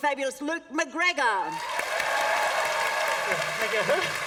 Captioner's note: applause